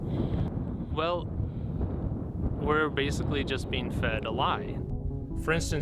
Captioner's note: gusting wind